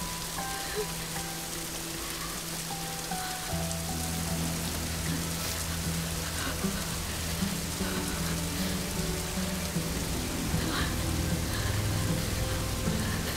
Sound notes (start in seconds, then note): 5.8 shivering; 10.4 Googly panting